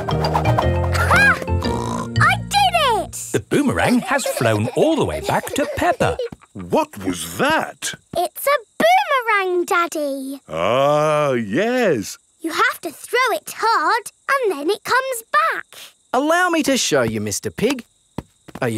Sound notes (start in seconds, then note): 1.6 snorts